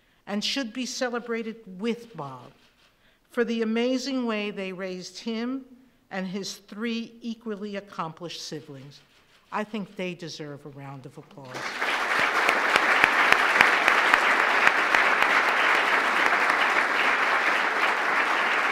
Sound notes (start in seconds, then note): 11.4 applause